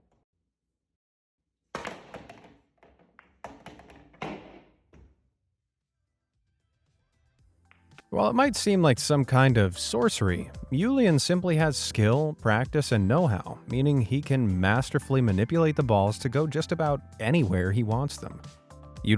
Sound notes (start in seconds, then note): 1.7 billiard ball shakes; 4.4 cue ball slams